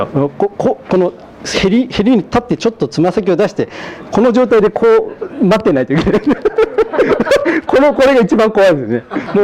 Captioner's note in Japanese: 笑い